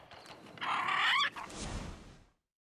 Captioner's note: squawks